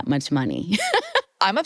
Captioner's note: laughs